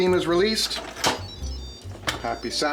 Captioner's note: beeps